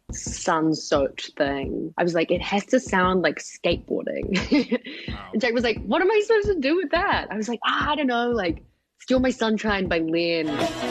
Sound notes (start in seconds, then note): 4.3 laughter